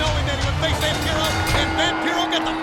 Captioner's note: bell rings